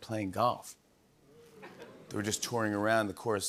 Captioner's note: audience oohs